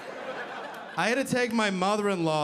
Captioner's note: audience laughing